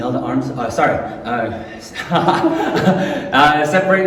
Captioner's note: laughing